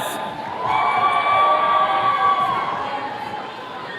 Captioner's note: attendees cheering